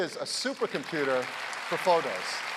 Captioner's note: applause